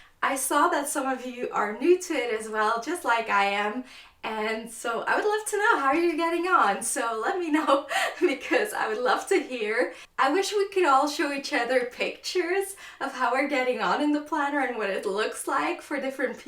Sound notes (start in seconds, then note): 7.7 laughs